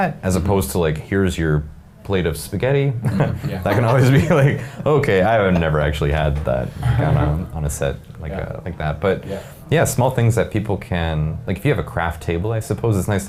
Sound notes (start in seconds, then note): 3.0 laughing